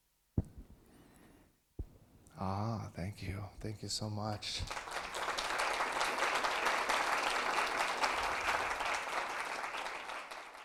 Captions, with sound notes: Ah, thank you. Thank you, so much. [audience clapping]